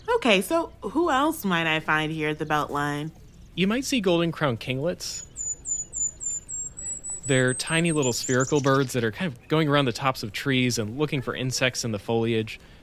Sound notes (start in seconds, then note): 5.0 golden-crowned kinglet song